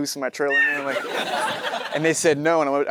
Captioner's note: audience laughing; Matthew laughs